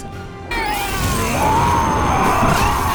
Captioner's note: ahhhhhhhh!; hyarrrrgh!; smack!